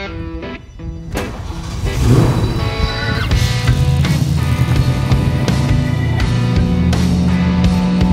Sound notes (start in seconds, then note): 0.5 blues rock music playing; 2.3 engine roars